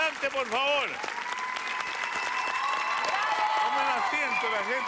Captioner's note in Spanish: aplausos